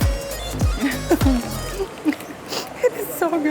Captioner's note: chuckles